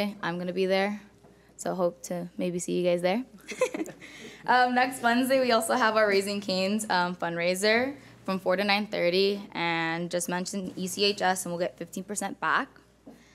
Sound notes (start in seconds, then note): 3.4 chuckles